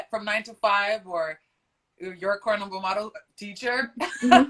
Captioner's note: laughs